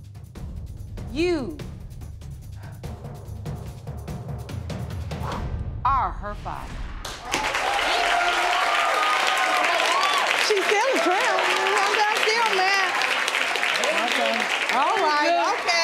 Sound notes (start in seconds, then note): 4.2 exhales; 7.2 audience cheering and applauding